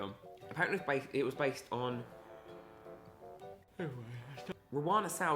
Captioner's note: yawns